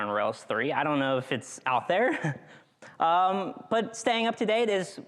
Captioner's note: chuckles